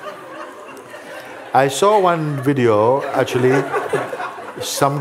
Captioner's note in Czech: smích